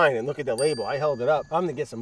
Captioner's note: bell dings